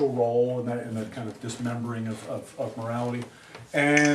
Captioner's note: camera shutters